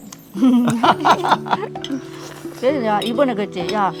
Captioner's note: both laughing